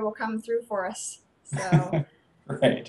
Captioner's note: laughing